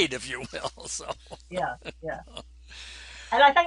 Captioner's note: laughs